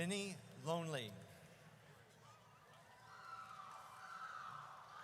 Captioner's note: audience cheers